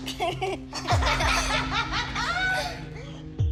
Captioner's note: laughter